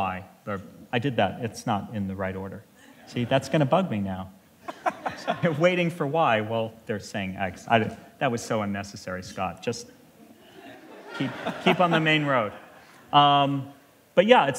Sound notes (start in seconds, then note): 4.6 laughter